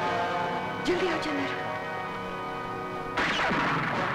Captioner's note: Gunshot